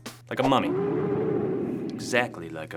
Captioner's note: mummy moaning